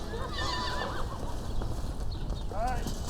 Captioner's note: horses neighing